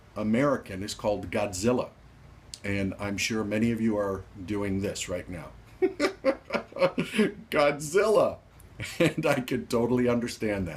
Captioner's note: laughs sardonically